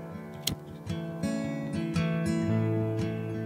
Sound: flicking lighter; calming acoustic guitar

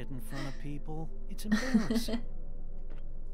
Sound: more chuckling

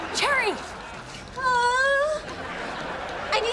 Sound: whining

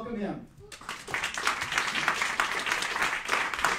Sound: clapping

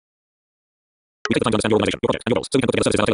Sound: VoiceOver, speaking at a very high rate

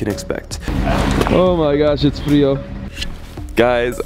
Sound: speaks foreign language

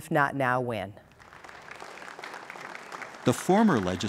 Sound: applause

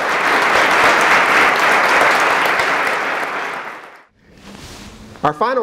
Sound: applause

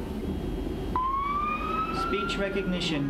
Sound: siren

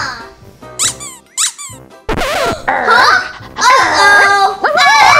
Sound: toy squeaks

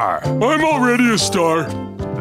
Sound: none

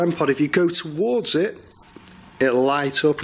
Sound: loud beeping

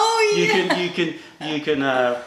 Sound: laughter

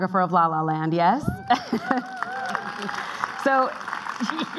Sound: clapping

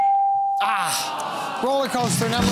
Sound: groaning

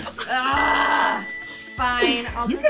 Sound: groans; ding

